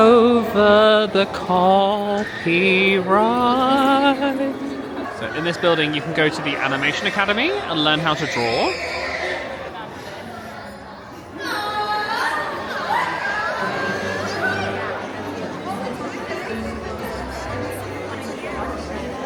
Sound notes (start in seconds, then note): 14.8 crowd murmuring